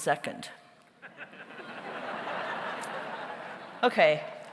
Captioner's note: audience laughs